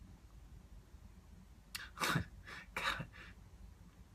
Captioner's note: chortles